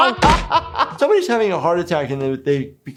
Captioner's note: laughs